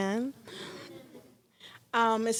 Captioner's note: laughing